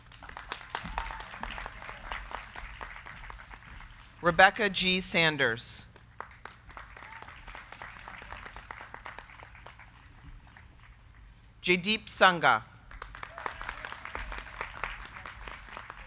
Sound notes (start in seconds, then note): 0.0 crowd clapping; 0.4 crowd cheering; 5.8 crowd clapping; 6.8 crowd cheering; 12.8 crowd clapping